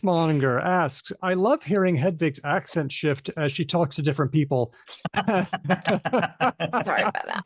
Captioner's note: laughter